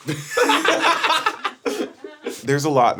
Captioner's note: streamers laughing